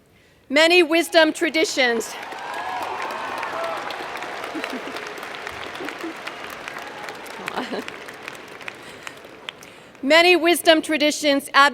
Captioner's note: cheers